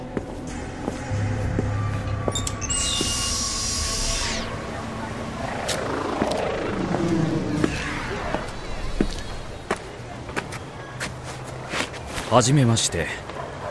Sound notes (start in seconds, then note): 2.1 door opens; 4.6 street noise